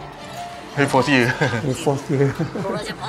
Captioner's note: laughing; laughing also